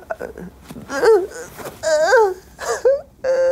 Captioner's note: Ashley starts fake crying